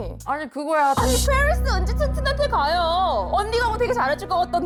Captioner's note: dramatic sound effect